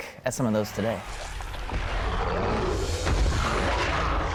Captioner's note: growling